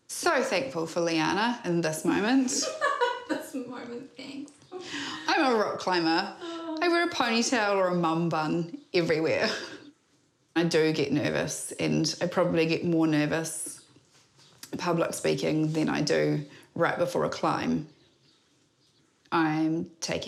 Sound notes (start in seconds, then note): 2.3 laughs; 9.7 chuckles